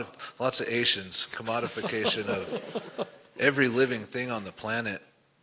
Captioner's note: laughter